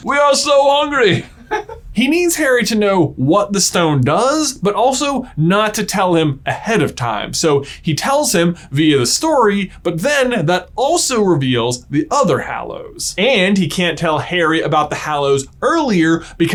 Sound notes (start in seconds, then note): 1.0 laughs